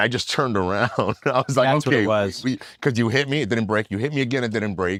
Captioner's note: laugh